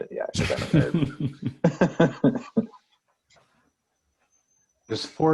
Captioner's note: laughing